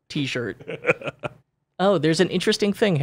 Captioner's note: laughing